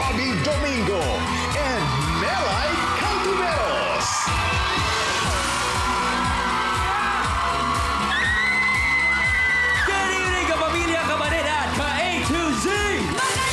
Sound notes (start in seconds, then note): 5.0 cheering; 5.0 thrilling music playing; 8.4 melai shrieks